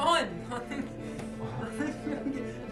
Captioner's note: defeated forced laughter